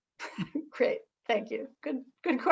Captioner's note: chuckles